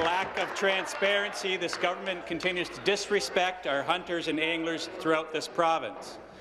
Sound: applause

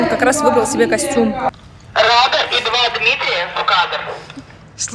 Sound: work sounds on the background

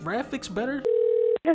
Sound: phone ringing

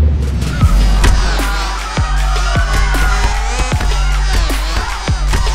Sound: club crowd screaming

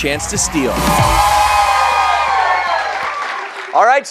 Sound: cheers and applause

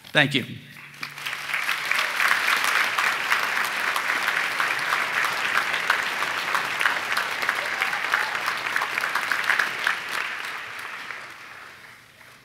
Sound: applause

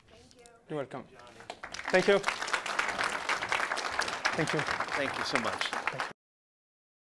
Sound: applause

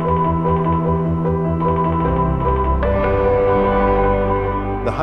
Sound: morse code beeping sound

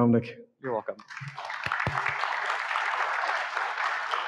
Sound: audience clapping

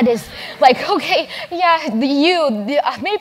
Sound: laugh

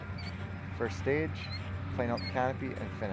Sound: voiceover

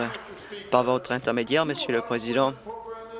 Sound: applause

